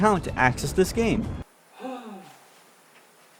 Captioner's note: sigh